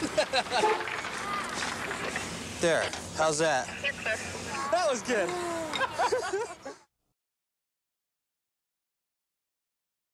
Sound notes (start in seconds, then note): 0.0 laughter; 5.4 laughter